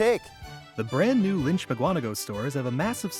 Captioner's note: voiceover